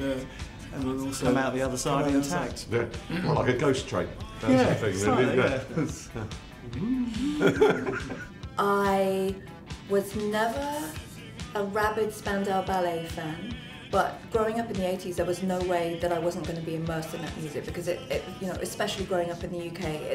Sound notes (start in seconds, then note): 7.1 laughter